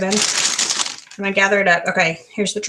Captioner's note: plastic crunches